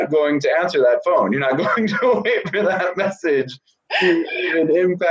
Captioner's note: laughs